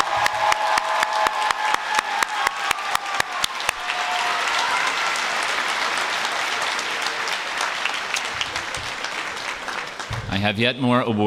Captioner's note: applause